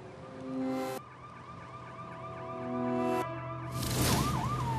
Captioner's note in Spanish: ruido de sirena